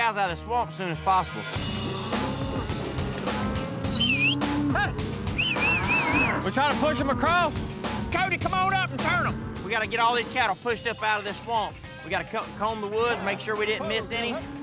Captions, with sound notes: OUTTA THIS SWAMP AS SOON AS POSSIBLE. [MOOING, WHISTLING] WE'RE TRYING TO PUSH THEM ACROSS. CODY, COME ON UP AND TURN 'EM! WE'VE GOTTA GET ALL THESE CATTLE PUSHED UP OUTTA THIS SWAMP. WE'VE GOTTA COMB THE WOODS TO MAKE SURE WE DIDN'T MISS ANY